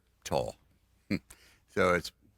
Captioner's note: laughs